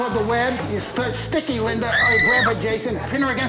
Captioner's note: screams